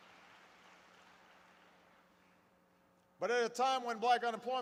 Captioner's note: applause